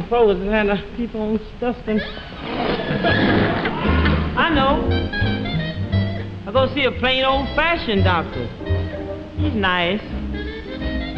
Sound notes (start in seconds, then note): 2.0 audience laughing